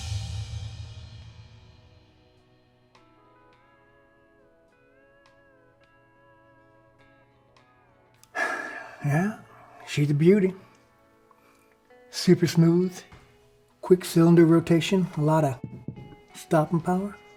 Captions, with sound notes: (light country music) - (sighs) Yeah, she's a beauty. Super smooth, quick cylinder rotation. A lotta stopping power.